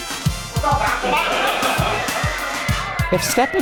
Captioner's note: audience laughter